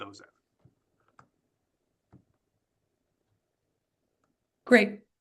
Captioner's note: silence